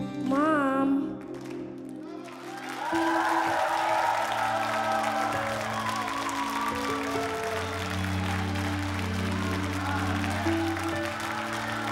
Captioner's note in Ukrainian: оплески